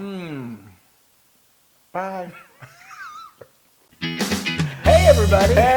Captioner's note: laugh